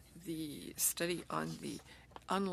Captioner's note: speaking French